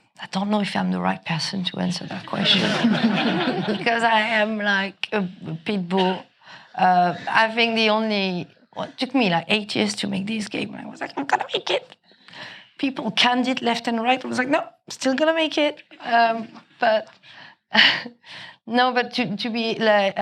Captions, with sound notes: I don't know if I'm the right person to answer that question, (audience laughing) because I am like a pit bull. I think the only, it took me like eight years to make this game. I was like, "I'm going to make it." People canned it left and right. I was like "No, I'm still going to make it." But, no, but to be,